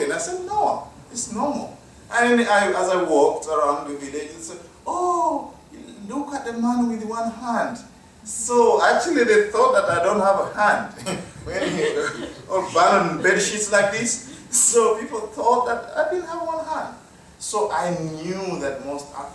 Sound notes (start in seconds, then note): 11.0 laughter